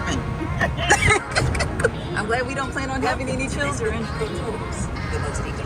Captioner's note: women laughing